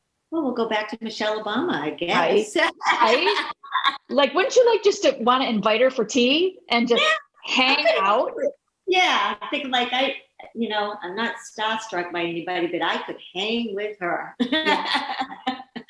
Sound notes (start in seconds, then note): 2.6 laughing; 14.4 laughing